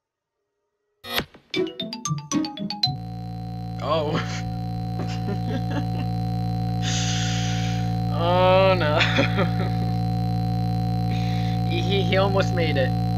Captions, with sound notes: Oh... *Chuckles* Ohh no... He-He-He almost made it.